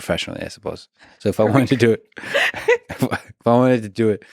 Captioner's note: laughs